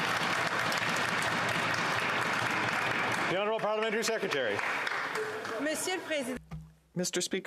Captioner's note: applause